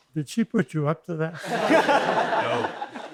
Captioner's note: laughter